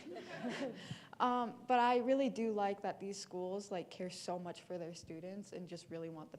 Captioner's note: laughter